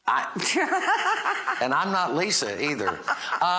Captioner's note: chuckling